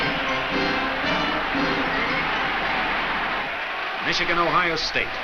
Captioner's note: crowd cheers